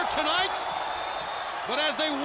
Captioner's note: audience cheering